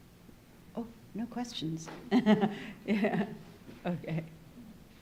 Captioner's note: laughing